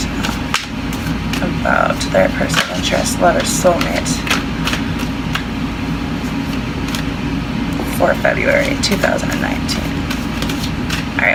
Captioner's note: shuffling